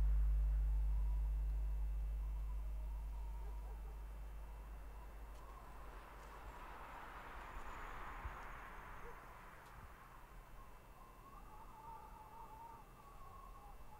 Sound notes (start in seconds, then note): 1.6 distant dog barks; 2.4 wind whistles